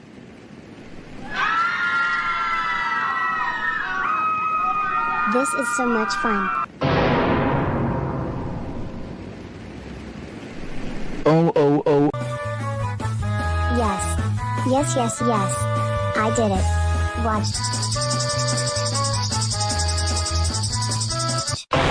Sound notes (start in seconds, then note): 1.1 people screaming